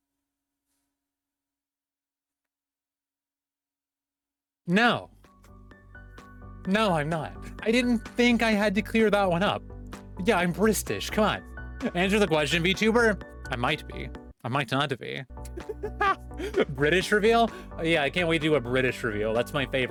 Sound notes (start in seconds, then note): 15.4 bristish laughter